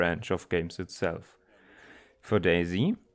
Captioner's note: inhales noticeably